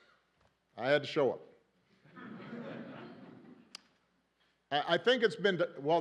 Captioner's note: laughter